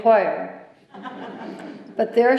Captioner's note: laughter